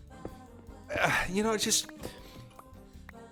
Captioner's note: sighs